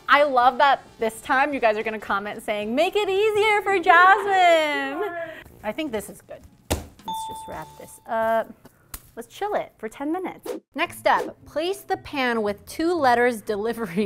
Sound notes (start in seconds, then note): 6.6 dough slapping